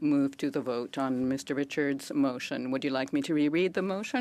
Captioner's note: speaking French